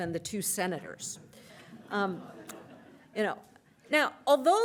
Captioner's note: laughter